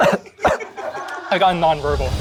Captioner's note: laughter